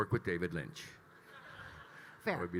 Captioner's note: attendees laughing